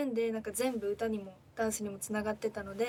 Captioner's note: speaking in foreign language